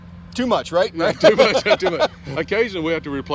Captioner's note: laughing